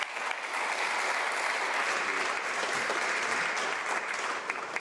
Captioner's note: applause